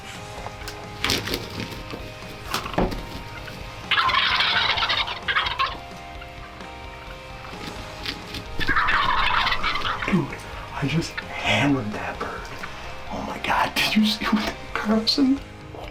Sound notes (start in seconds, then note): 0.3 upbeat music; 4.0 birds squawking